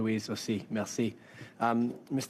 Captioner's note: speaking French